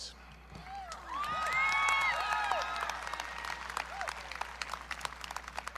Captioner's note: audience cheering